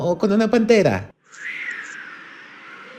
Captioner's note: wind